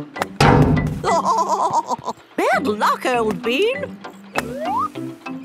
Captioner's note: laughing